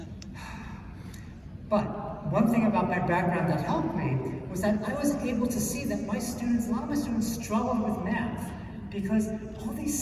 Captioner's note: sigh